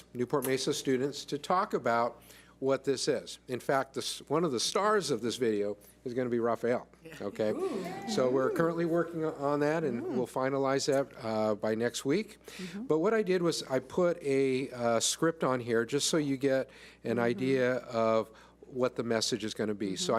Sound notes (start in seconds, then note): 6.8 cheers